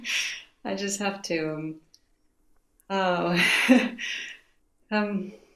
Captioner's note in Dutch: lacht